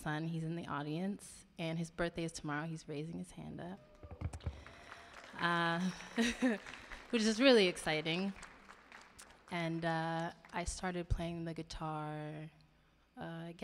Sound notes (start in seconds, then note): 5.9 audience cheering; 6.1 laughing